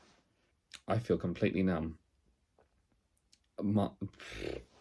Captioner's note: exhales